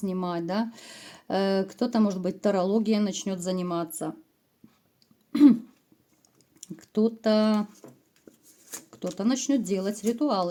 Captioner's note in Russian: откашливается